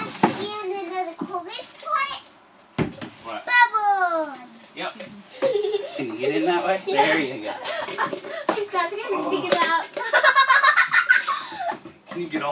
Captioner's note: little girl giggling